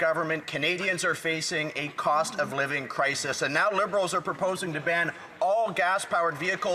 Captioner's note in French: voix de l'interprète